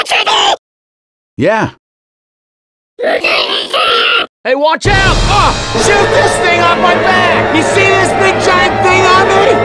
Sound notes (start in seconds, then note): 3.0 grunts